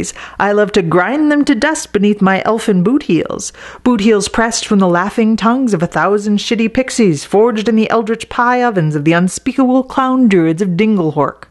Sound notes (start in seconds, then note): none